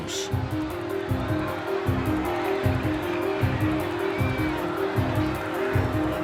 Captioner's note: yelling, screaming